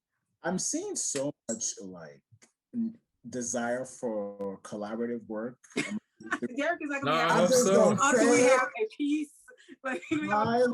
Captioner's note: laughing